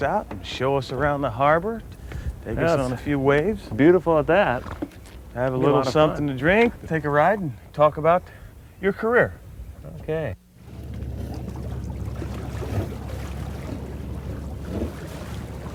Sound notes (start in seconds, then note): 10.5 water sloshing